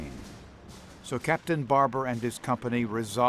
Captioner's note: bombs booming